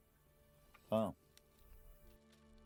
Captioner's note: Spoken Cherokee